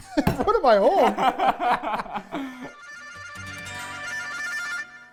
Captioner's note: laughing